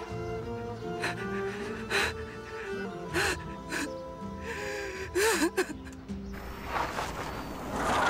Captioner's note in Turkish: Ağlıyor